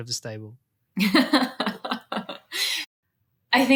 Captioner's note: laughs